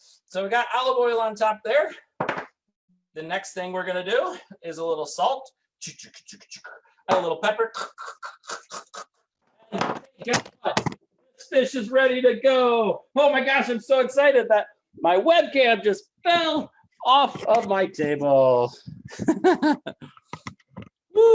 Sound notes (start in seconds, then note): 9.8 webcam crashing; 19.1 laughing